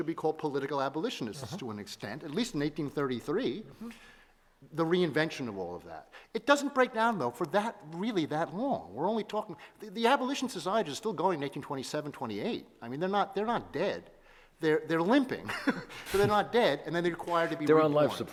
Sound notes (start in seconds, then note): 15.5 laughs